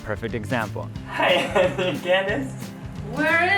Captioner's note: laughs